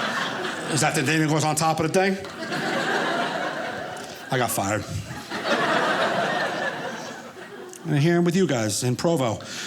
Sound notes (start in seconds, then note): 2.2 audience laughing